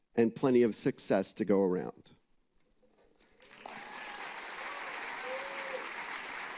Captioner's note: applause